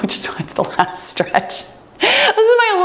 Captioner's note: laughs